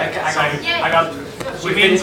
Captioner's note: noises from audience